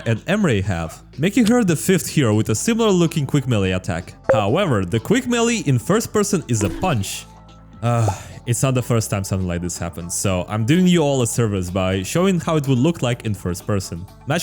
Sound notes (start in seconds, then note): 7.9 sigh